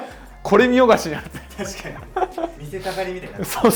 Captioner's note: laughter